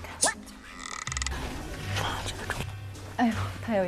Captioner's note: whispering